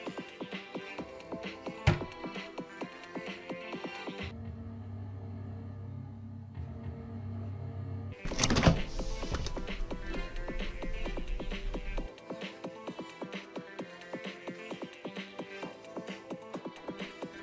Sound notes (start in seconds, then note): 0.0 lively music; 4.5 scary music on TV; 8.2 fridge opening; 9.5 lively music